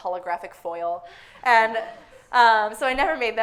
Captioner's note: audience laughing